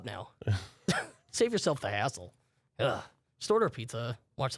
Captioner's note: groans